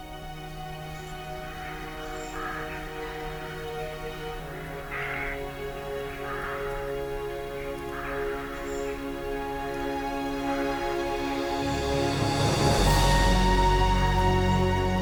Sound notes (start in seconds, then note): 0.2 gentle music; 5.2 birds call; 10.2 gentle music